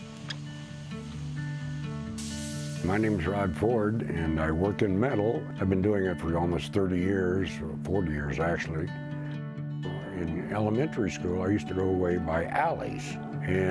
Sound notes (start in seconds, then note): 0.3 uplifting music; 2.2 torch sounds